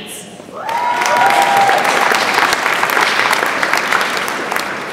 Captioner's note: audience applauds